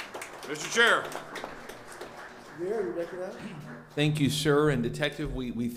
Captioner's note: applause